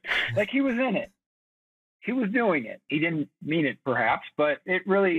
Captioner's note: chuckles